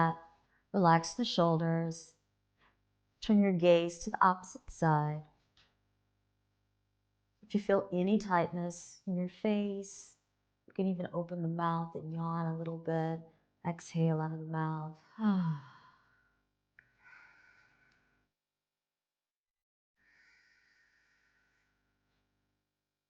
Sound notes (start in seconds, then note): 15.2 sighs; 16.9 relaxing music and audible breathing